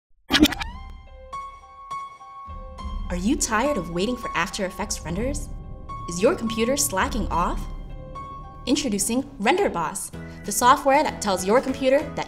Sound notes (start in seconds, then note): 0.2 static; 1.2 dramatic music